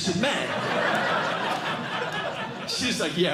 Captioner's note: laughter